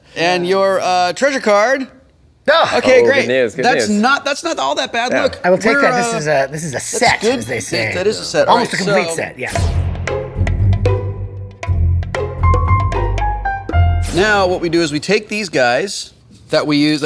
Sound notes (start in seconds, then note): none